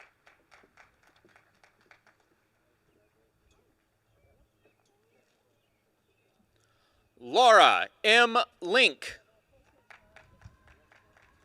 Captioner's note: applause